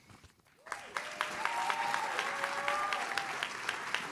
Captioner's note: audience claps